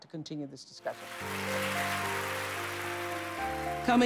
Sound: applause

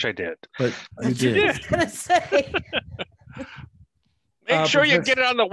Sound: laughing

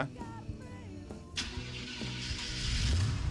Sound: van starts up

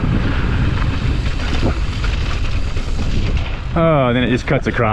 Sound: tires swishing

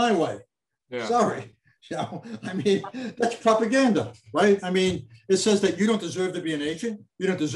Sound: laughs

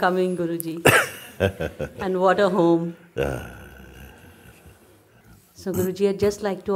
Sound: Mooji laughs

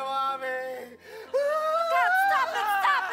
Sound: Curt wailing

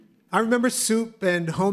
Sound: none

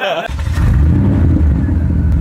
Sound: engine running

